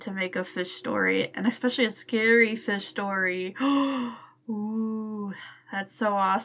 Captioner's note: gasp